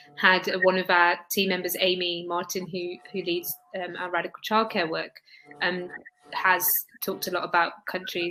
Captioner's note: erm; erm